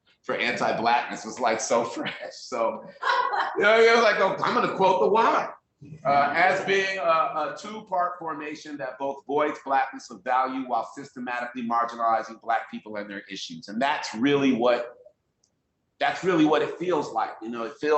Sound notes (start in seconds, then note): 2.7 laughing